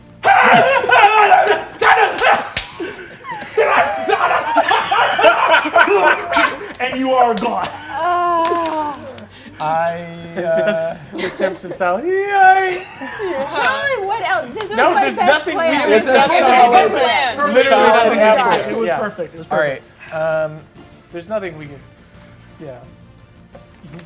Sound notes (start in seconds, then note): 0.2 screaming incoherently; 4.8 players laughing as continues screaming; 8.3 sighing; 12.3 screams like Homer Simpson